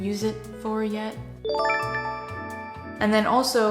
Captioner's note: chime